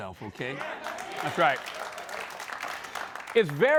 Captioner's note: scattered applause